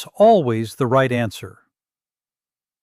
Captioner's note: pause